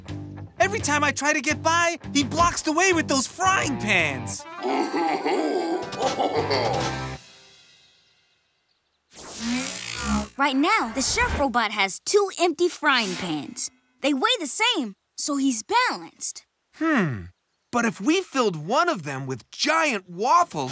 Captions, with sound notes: Every time I try to get by, he blocks the way with those frying pans. [robot laughing] Right now, the chef robot has two empty frying pans. They weigh the same, so he's balanced. Hmm, but if we filled one of them with giant waffles,